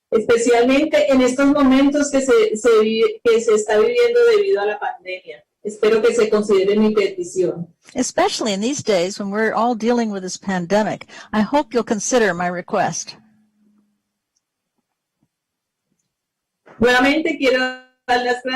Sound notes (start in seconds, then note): 4.4 speaking spanish